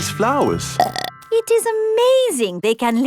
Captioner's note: burps